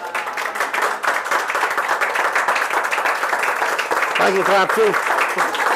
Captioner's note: applaud